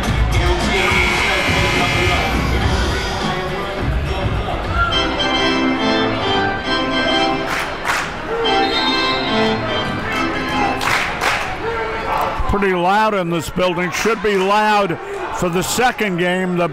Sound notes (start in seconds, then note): 0.7 buzzer rings; 4.9 upbeat music